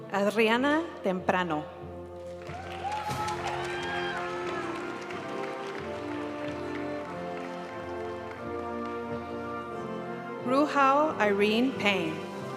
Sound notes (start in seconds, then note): 2.3 audience cheering and applauding; 6.0 graduation music